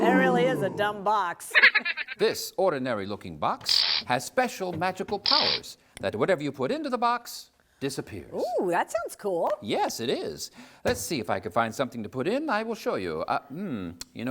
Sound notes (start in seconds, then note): 1.5 silly laugh